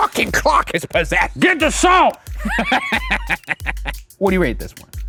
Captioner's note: laughs